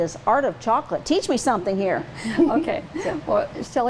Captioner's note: laughs